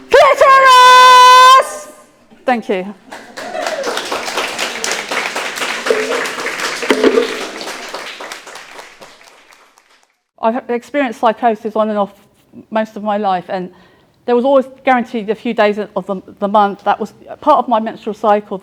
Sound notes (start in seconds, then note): 3.1 audience applauding and cheering